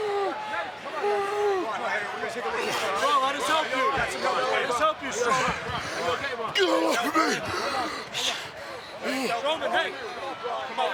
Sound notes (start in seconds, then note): 0.0 Strowman struggling to breathe; 2.5 overlapping chatter